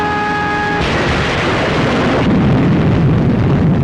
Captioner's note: explosions